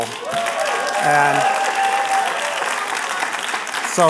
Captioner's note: applause